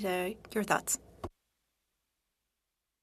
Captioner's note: speaking french